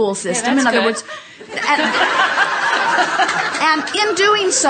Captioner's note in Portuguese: A platéia ri